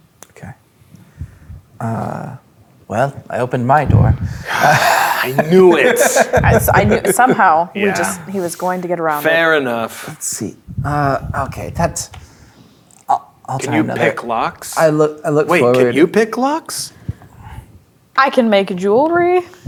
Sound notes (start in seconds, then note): 4.2 sighs; 6.1 players laughing